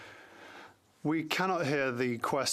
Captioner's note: speaking French